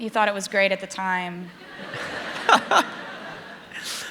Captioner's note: laughter